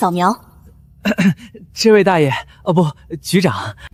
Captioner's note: cough cough